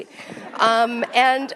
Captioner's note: attendees laugh